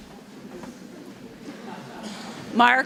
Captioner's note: audience laughs